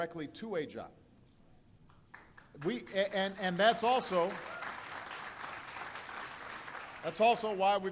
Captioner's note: applause